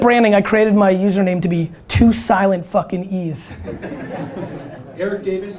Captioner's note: audience laughter